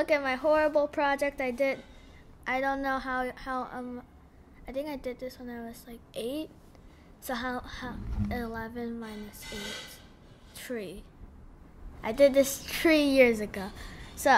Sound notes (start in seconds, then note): 9.1 mom washing the dishes in the background